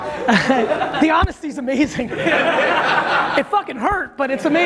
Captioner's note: laughter